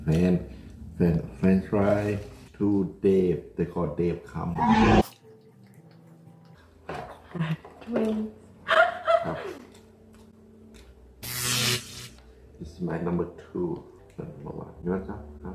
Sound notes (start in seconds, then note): 4.2 chomp roar; 11.2 electric surge